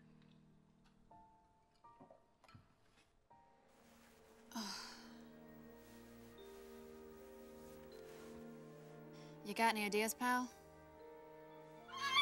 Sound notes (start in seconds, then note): 4.5 sighs; 12.0 squawks